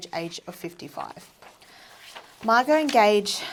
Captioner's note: paper rustling